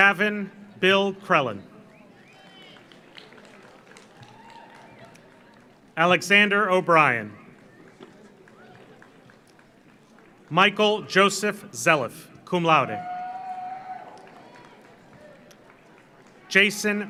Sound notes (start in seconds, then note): 1.9 audience cheers; 2.2 audience applauds; 7.5 audience applauds; 12.8 audience cheers; 13.1 audience applauds